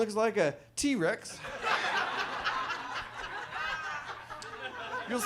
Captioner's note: audience laughs